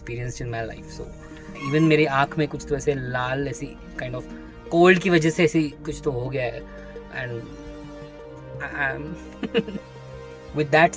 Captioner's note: imitates crying